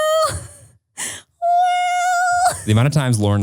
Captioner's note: laughs